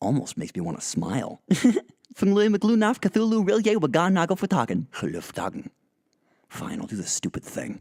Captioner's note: giggle